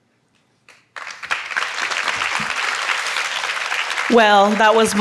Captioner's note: audience applauds